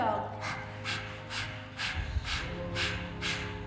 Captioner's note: all panting